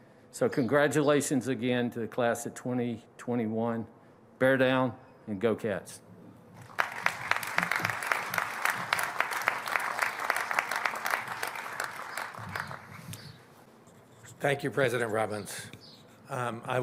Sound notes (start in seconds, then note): 6.6 applause